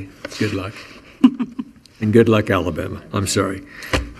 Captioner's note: chuckling